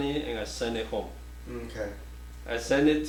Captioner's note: offscreen Voice